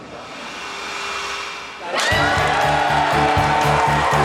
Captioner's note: Gritos e aplausos